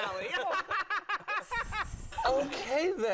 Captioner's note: all laugh